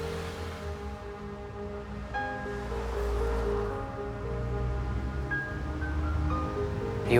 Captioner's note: cars whooshing; soft intriguing music